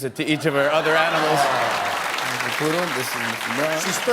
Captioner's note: laughter